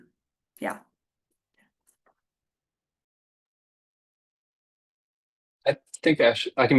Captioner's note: silence